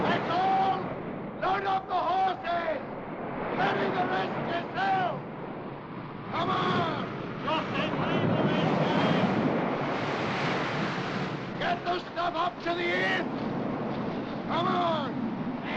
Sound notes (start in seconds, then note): 6.4 men shouting; 7.5 wind howling & waves crashing; 11.5 shouting